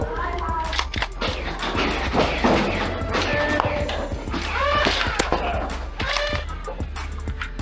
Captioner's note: motors revving and blasters thunking with indistinct shouting